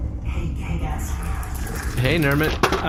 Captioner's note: Nermut skitters into the room